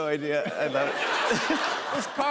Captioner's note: laughter